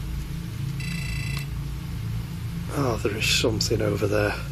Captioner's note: beeping